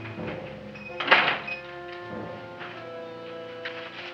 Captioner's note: shop bell dings; door closes